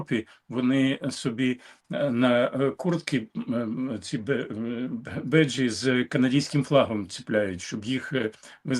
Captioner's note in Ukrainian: прочищення горла